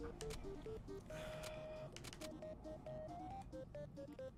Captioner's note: exhales